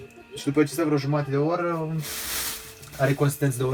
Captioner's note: boiling